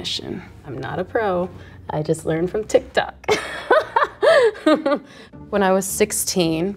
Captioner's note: laughs